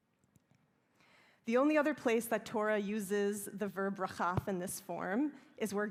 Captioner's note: hebrew